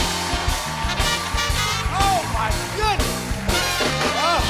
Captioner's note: cheers and applause